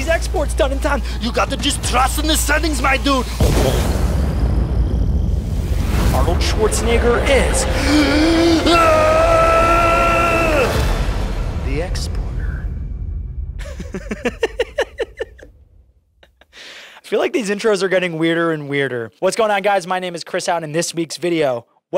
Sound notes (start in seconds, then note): 13.6 laughing